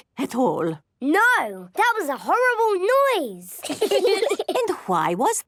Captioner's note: laughter